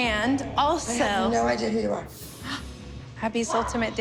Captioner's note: gasps